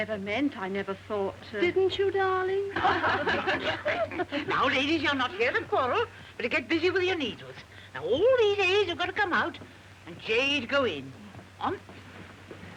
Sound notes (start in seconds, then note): 1.0 laughing